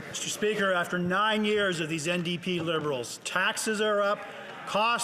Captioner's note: some Applause